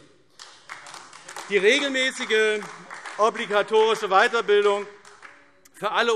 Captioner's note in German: Beifall AfD